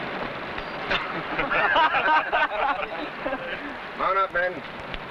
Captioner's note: men laughing